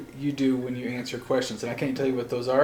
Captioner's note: none